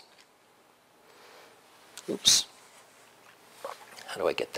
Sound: pause

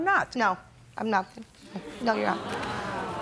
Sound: spectators murmur

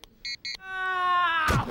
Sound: beeping; Cleo yells

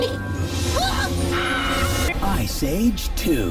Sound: screams; screaming

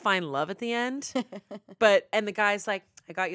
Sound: laughs

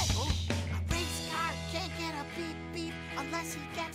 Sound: whispering

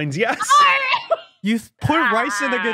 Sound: laughs triumphantly

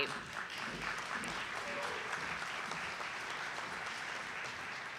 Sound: audience applauding

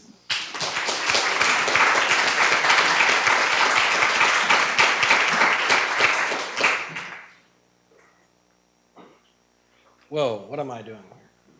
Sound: applause

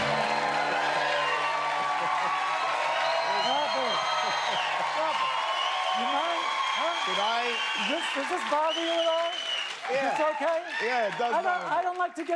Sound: cheers and applause

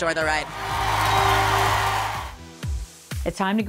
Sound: cheers and applause

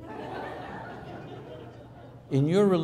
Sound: laughing

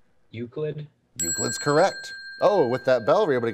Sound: ding

